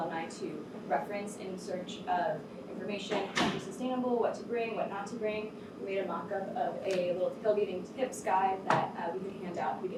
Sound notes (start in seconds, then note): 2.5 door closes